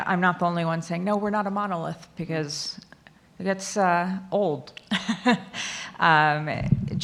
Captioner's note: laughs